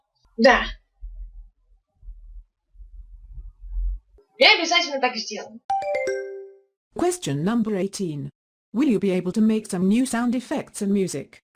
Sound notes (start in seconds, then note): 5.7 question ding